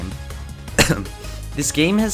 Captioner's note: cough